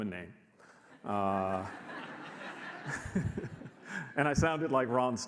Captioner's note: audience laughs